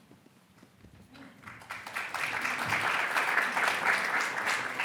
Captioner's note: audience applauds